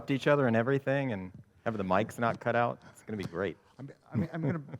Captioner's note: chuckles